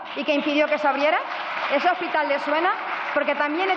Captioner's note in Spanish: Aplausos